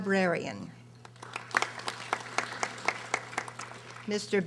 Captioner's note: audience applauding